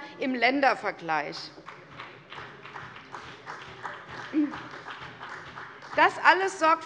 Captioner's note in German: Beifall bei der CDU und dem BÜNDNIS 90/DIE GRÜNEN